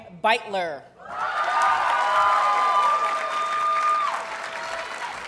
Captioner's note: audience cheers and applauds